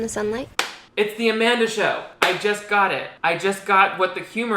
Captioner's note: claps